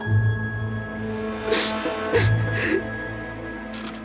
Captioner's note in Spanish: Sollozos